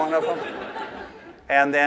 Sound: laughter

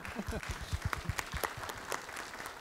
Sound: applause

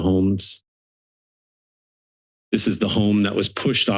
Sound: silence

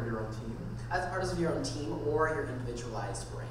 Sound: voiceover

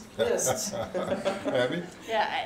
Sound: chuckles

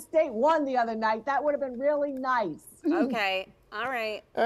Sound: laughter

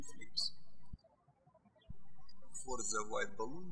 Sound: birds chirping

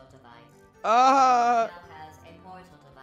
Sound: victorious-laugh.mp3

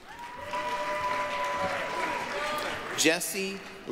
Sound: applause, cheering

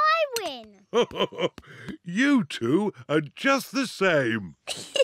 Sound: laughs; giggling

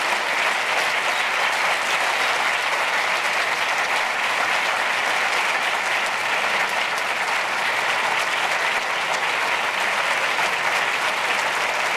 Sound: audience applause

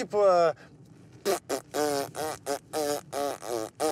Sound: hums a melody

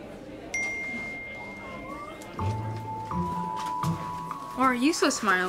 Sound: phone dings

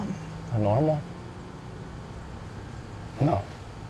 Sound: voice breaking

